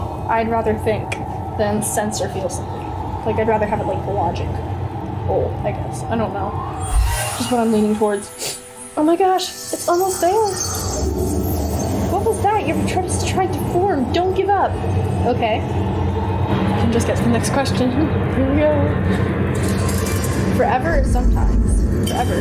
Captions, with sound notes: I'd rather think than sense or feel something. Like I'd rather have it like logical, I guess. I don't know. Just what I'm leaning towards. Oh my gosh, it's almost there! (wind whooshing) What was that? Your Patronus is trying to form. Don't give up! Okay. Just get to the next question. Here we go. Forever or sometimes. (ominous music)